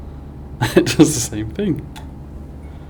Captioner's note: chuckles